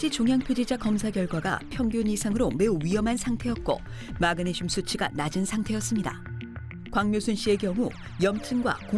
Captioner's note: voiceover